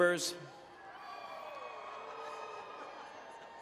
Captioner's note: cheering